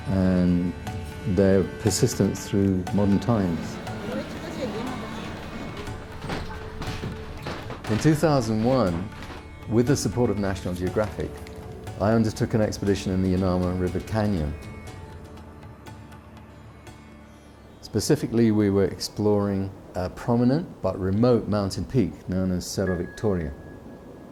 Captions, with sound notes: and their persistence through modern times. [Crowd chattering] In 2001, with the support of National Geographic, I undertook an expedition in the Yanama River Canyon. Specifically, we were exploring a prominent but remote mountain peak, known as Cerro Victoria.